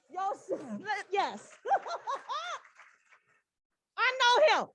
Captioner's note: applause